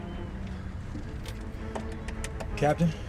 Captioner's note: taps dashboard